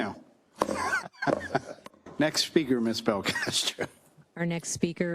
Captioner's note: laugh